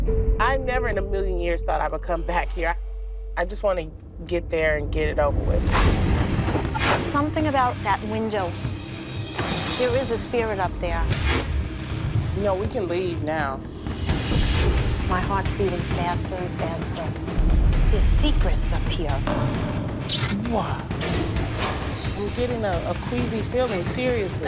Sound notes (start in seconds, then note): 11.2 scratching; 13.6 whooshing; 19.3 banging